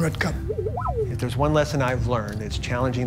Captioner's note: robot beeps